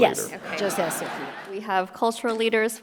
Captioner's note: audience laughing